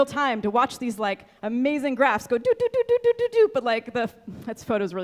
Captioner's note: mimics beeping